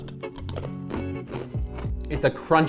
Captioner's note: pizza crunching